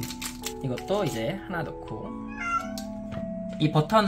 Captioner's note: meow